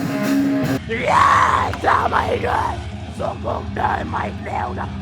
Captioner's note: screaming